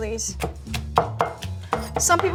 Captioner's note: knife chopping